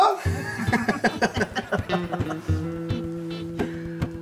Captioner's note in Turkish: Gülme sesi